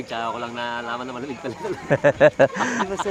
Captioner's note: laughs